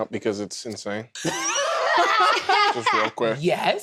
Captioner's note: laughter